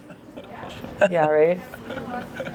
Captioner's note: laughing